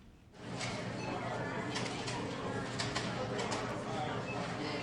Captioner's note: people chattering